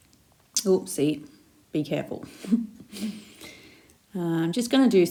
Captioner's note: chuckles